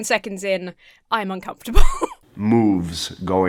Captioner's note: laughs